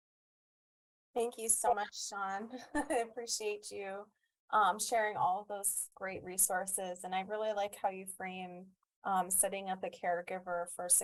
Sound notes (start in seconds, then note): 2.5 chuckles